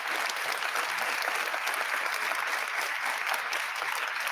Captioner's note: audience applauding